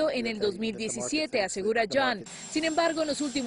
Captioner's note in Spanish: habla en inglés